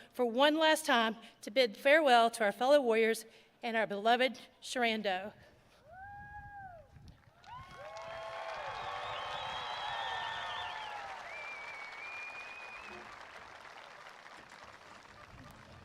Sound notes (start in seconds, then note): 7.2 attendees applauding and cheering